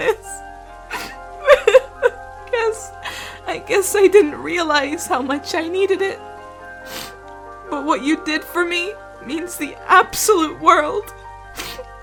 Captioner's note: crying